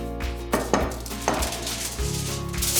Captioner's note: upbeat music; bowl clinks; tin foil crinkles